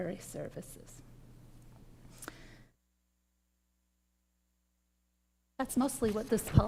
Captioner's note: microphone muted